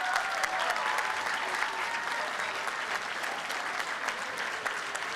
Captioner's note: applause and cheering